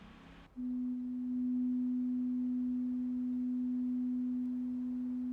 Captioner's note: medium-pitched tone playing